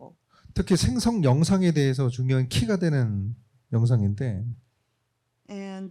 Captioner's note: speaking korean